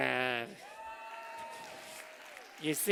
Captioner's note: cheers